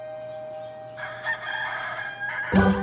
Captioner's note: rooster crows